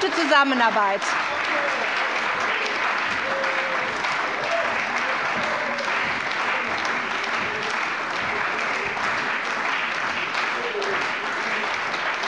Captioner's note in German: Beifall bei der CDU und dem BÜNDNIS 90/DIE GRÜNEN